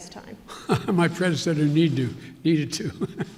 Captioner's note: laughs